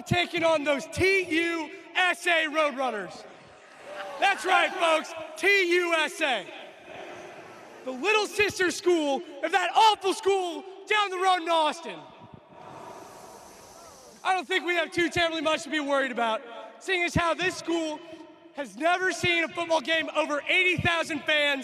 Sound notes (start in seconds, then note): 0.9 cheers